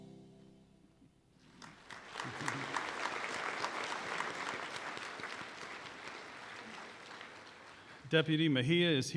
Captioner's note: applause